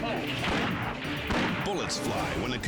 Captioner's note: gunshots ring